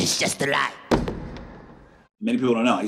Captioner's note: mic thumps